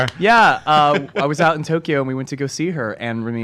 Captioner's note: laughs